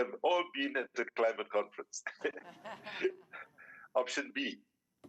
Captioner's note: laughs